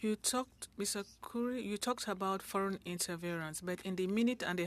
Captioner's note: speaking French